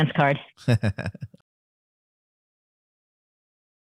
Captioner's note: laughter